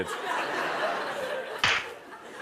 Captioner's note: laughter; smack!